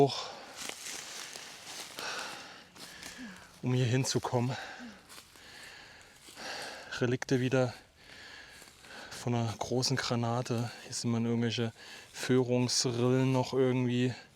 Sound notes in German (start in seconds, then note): 5.6 seufzt